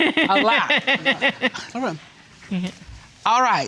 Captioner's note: laughing